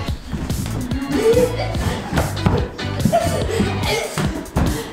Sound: upbeat pop music; laughing

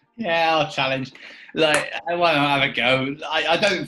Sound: claps

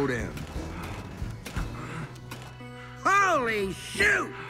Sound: Lightning huffs and puffs

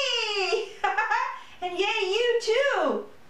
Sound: laughter

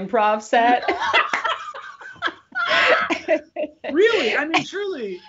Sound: both laughing

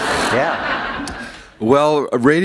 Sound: laughter

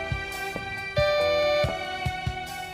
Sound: doorbell ringing

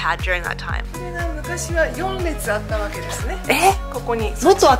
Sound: speaking Japanese

